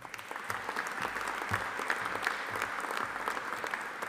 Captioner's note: audience applauding